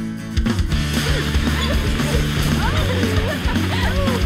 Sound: group grunting and laughing

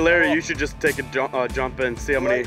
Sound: voiceover

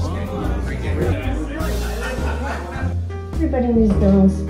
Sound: crowd chattering

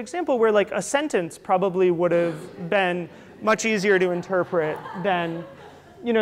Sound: audience laughter

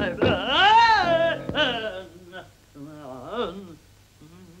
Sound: banging continues; singing gibberish; Piano stops, Pitkin yells

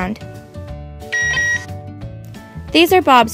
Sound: Bob beeps

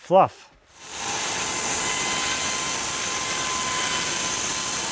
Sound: saw whirring

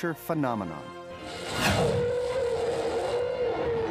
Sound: roar

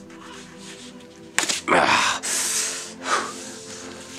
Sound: grunts

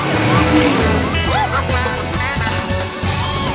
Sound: clucking

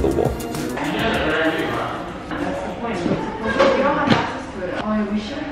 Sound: overlapping chatter

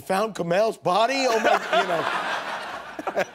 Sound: laughter

